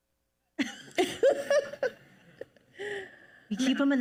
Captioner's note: panelists laugh